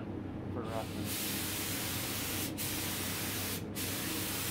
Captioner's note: spray gun hissing